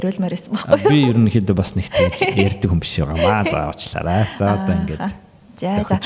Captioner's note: laughs